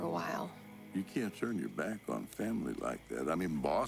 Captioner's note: none